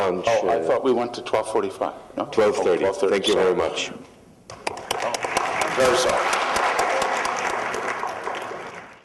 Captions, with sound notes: - Oh. I thought we went to 12:45. No? - 12:30 - Oh, 12:30. - Thank you very much. [APPLAUSE]